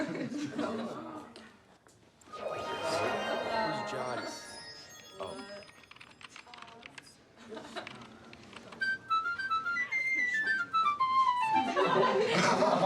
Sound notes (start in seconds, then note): 5.3 keyboard clattering; 8.6 lighthearted flute playing; 11.5 laughter